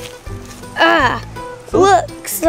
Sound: grunts

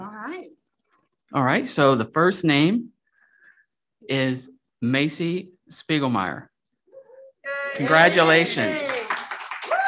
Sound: applause

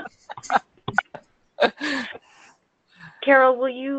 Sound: laughing

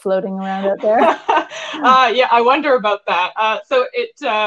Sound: laughing

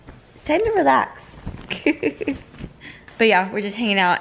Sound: laughs

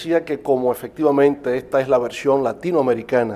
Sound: speaking in Spanish

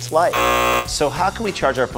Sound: buzzer

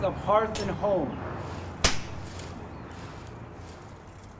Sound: BB gun banging

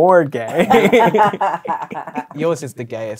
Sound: laughing

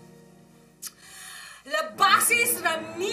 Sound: clicks tongue

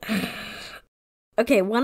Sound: laughs

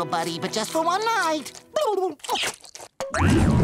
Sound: speaking worm language, kissing

